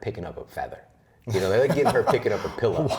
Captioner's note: laughter